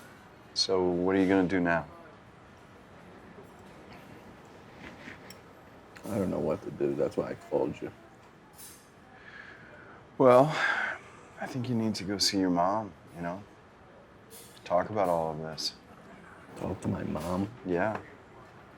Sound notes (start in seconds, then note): 10.4 sighs